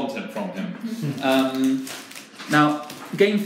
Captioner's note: participants laugh